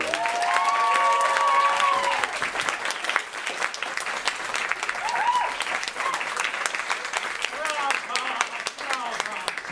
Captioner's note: applause